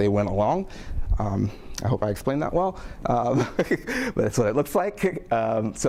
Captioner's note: laughs